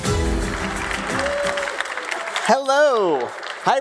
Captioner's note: applause